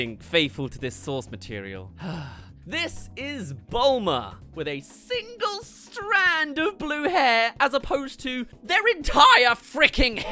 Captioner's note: sigh